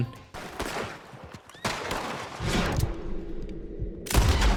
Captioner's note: guns blasting